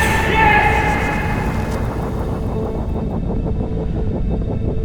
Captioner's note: electric noise, water